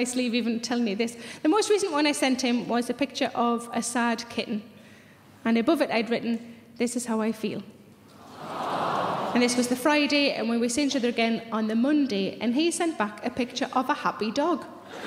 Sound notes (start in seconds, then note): 8.3 audience awws